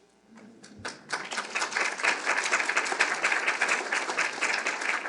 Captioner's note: audience clapping